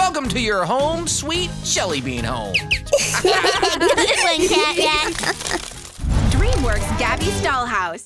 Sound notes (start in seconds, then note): 2.5 laughs